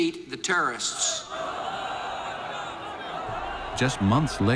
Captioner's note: crowd yelling